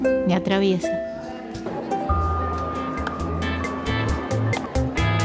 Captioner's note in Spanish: murmullo gente de fondo; música percusión suave